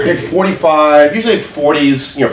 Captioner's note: overlapping chatter